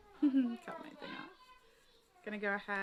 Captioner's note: chuckles